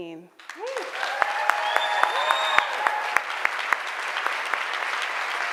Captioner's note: audience clapping and cheering